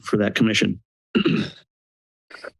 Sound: throat clearing

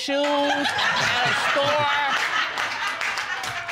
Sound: all laughing

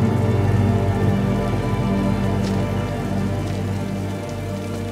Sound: rain falling

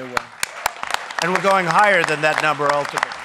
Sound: applause

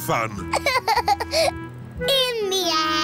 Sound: laughs

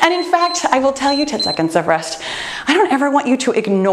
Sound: timer beeps

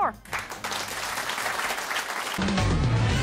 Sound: applause; intro music

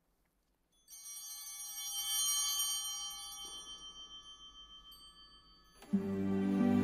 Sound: bell ringing

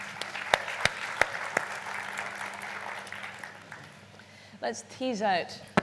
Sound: applause

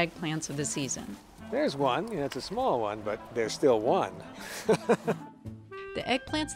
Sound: laughs

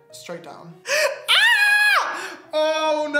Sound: screams

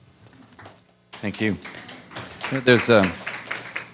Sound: applause

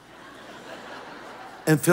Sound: audience laughing

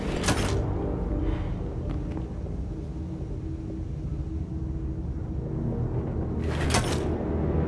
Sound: door opening; door closing

